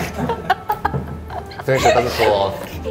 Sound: laughing

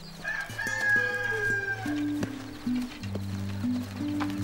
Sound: rooster crowing

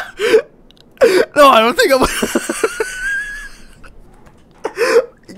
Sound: wheezes and dies; wheeze

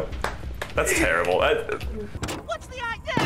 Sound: stammering; in Scrappy-Doo's voice

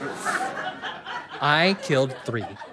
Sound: audience laughter

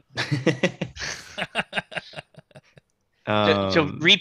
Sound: laughter

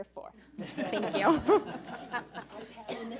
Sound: board laughs

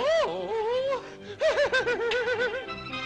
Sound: laughs

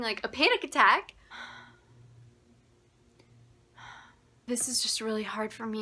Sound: breathing and contemplating

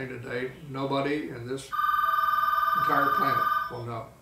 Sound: ringing

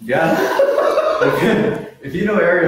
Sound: laughs

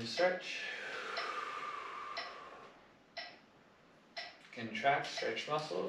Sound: metronome ticking

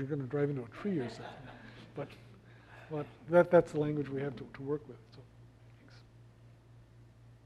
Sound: laugh

